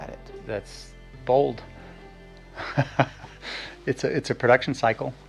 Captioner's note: giggles softly